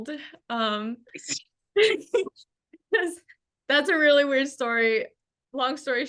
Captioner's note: laughs